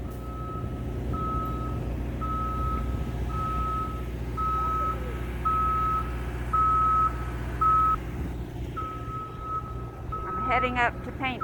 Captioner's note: beep…beep…beep…